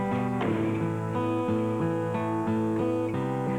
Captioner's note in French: Elle claque la porte